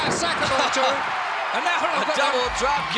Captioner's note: laugh